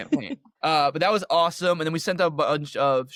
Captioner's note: laughter